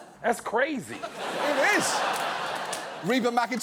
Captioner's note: studio audience laughs